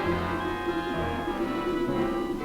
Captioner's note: yelping